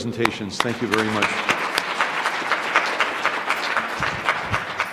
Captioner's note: applause